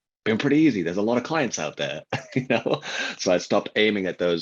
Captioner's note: laughs